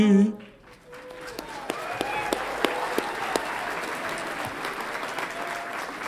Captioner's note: audience applauds and cheers